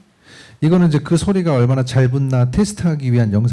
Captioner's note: speaking korean